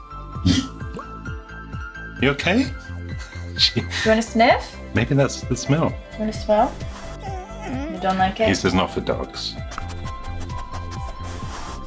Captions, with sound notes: (dog grunting) - You okay? - Do you wanna sniff? - Maybe that's the smell. - You wanna smell? (dog whimpering) You don't like it? - He says, not for dogs.